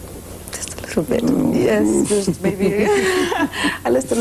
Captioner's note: laughs